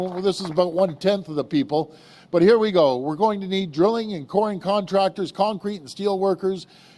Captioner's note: applause